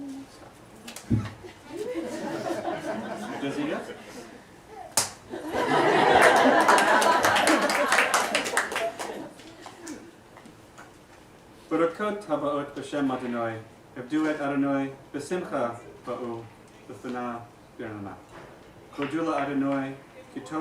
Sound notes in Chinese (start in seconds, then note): 1.4 大家在笑; 4.9 击掌